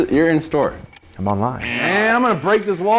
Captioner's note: buzzer buzzing